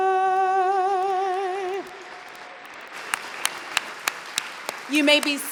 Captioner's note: applause